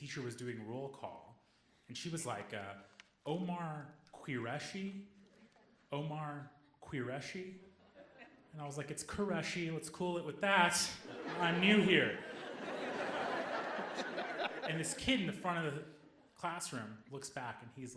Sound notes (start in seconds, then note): 13.5 audience laughing